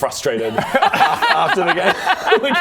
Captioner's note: remorseless laughter